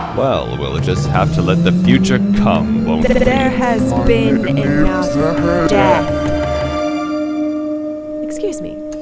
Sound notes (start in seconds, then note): 0.1 distant siren; 8.2 mechanical ambiance